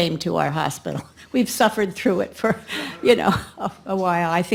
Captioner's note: laughs